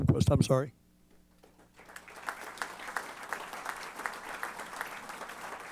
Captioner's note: applause